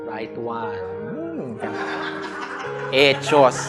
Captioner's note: exclaims; laughter